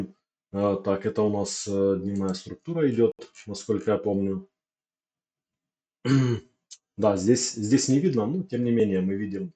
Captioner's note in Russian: откашливается